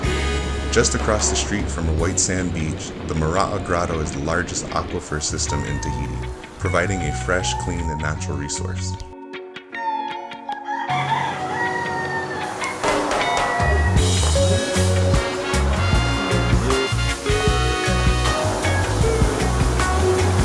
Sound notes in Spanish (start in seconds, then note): 10.7 Gallos cantando; 13.5 Tocando música reggae